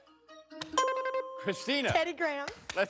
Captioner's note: bing